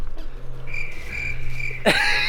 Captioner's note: cricket chirping; laughing